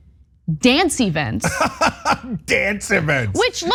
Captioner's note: laugh